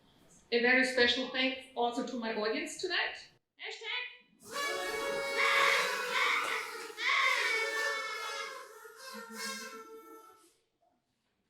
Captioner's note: audience toots